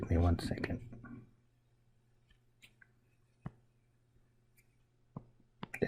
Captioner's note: writing Sounds